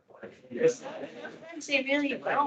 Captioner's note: attendees laughing